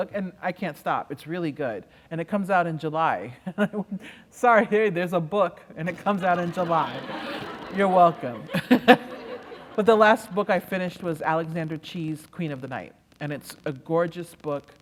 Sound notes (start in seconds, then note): 5.9 laughter